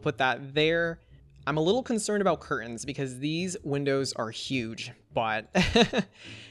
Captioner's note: laughs